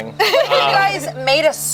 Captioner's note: group laughs